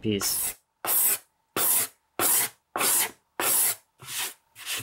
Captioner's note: tool scrapes